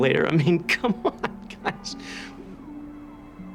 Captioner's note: chuckling